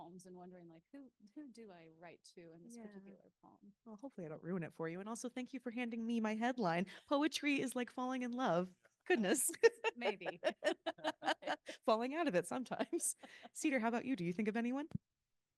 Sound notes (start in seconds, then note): 9.6 panel laughing